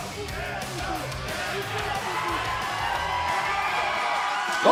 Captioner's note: fans chanting